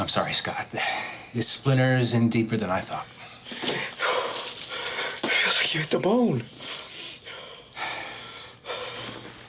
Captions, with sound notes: - I'm sorry, Scott. This splinter is in deeper than I thought. - It feels like you hit the bone. (gasping)